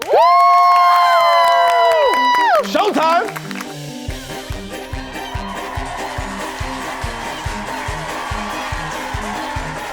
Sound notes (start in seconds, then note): 0.0 everyone cheers; 3.7 circus music; 4.8 audience cheering